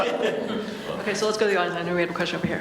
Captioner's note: panel laughs